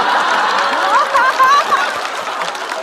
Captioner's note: haha